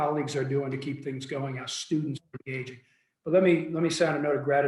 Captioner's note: faintly speaking